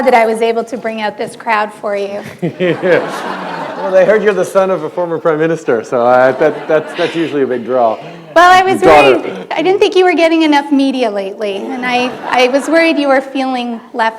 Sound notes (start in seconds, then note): 0.3 laughter; 2.5 chuckle